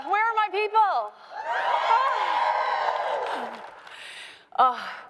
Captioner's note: crowd cheering